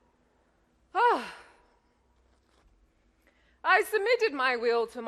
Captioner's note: Hatshepsut sighs